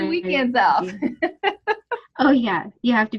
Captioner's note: laughs